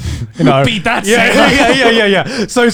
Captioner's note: laughing